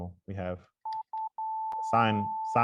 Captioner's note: tone plays